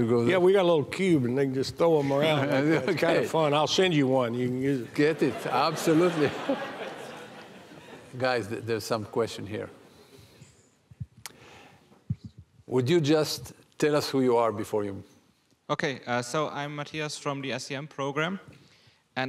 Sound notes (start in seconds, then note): 6.5 audience laughing